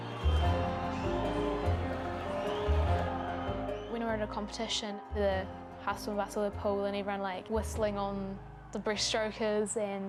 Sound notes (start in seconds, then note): 0.0 cheering